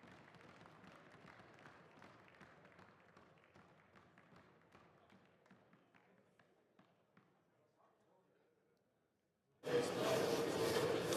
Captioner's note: applause